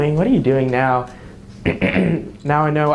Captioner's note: clears throat